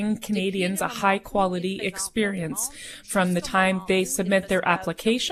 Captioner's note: speaking French